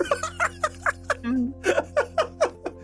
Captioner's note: laughter